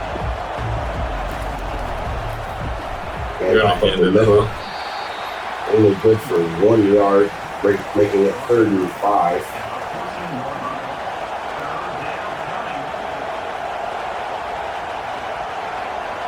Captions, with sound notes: [Crowd Noises] And the middle. [Crowd Noises] Only good for one yard, making it 35. [Crowd Noises]